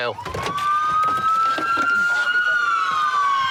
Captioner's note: siren